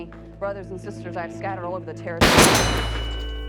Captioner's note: gun shots